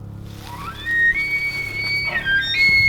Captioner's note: elk bugling